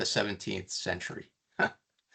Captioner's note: chuckling